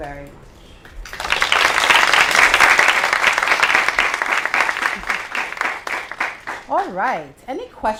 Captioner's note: applause